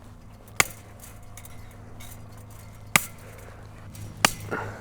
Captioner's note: chain link snapping